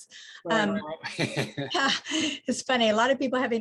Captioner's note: laughs